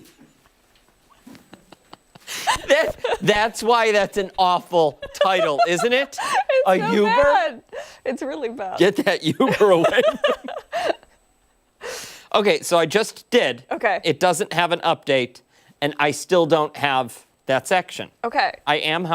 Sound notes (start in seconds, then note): 2.8 laughter